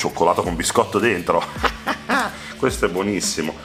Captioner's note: evil laugh